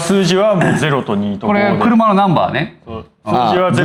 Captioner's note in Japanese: 咳払い